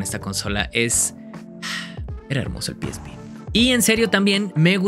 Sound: sighs

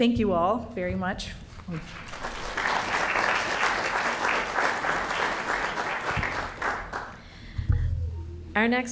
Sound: applause

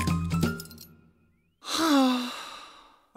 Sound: heavy sigh

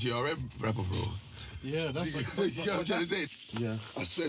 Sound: laughing

